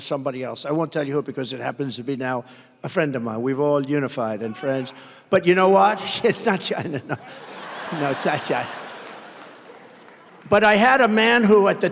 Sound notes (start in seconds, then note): 9.0 laughs; 9.7 crowd laughter